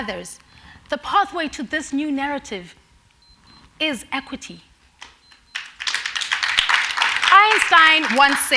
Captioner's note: applause